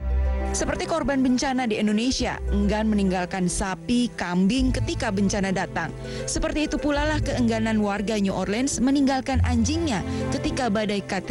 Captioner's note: non-english speech